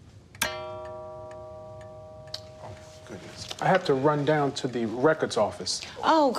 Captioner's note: clock chimes